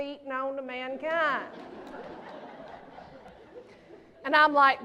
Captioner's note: laughter